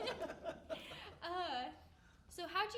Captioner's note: all laughing